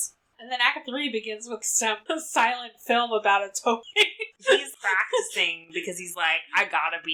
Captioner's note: laughs